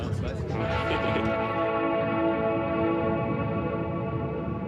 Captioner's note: laughing; slow dramatic music